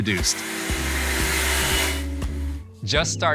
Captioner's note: machine whirring